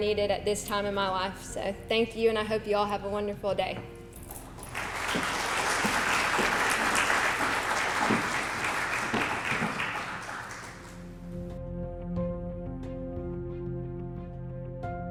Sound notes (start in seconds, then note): 4.5 applause